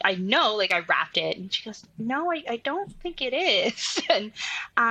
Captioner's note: laughs